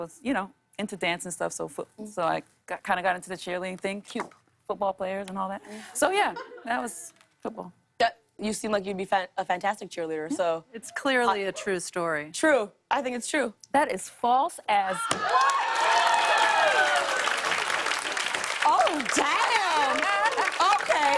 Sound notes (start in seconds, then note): 15.0 cheers and applause